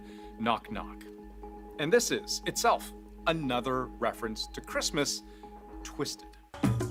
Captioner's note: speaking Alternate Language